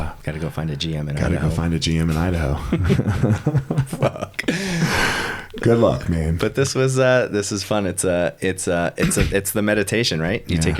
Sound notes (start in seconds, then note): 2.7 both laughing